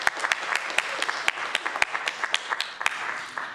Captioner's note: applause